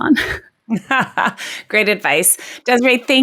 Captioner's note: laughs